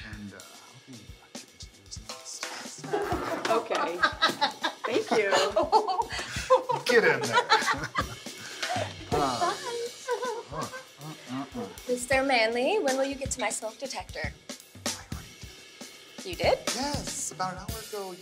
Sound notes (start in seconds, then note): 2.9 Maha giggling; 10.9 giggles